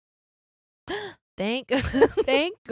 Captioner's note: gasping